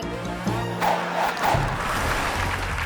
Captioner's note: logo whooshing; audience applauding